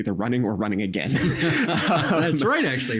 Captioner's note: both laughing